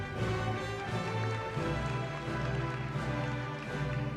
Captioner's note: applause